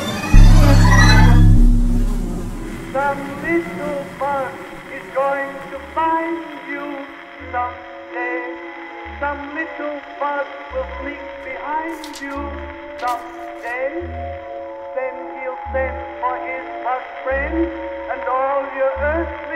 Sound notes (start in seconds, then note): 3.1 singer drowned out by record static